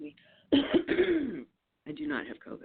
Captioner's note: coughs loudly